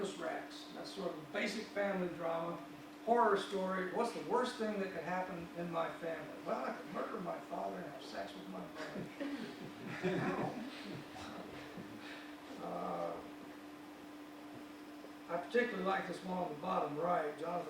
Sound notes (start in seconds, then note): 8.8 audience laughs